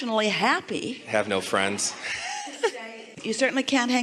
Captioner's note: guest laughs